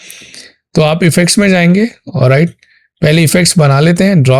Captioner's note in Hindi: नाक से की जाने वाली आवाज़